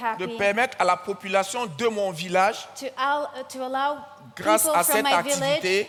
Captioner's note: continues in French